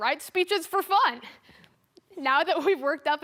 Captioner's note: soft breathing